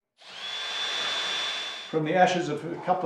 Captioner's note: drill noise